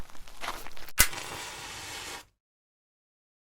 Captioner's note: match being struck